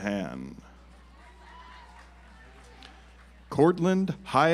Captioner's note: audience applauds